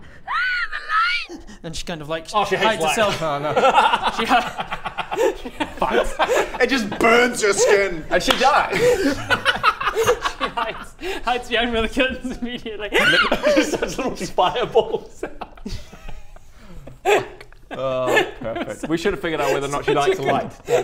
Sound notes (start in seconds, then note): 2.7 cruel giggles; 8.6 murderous laughter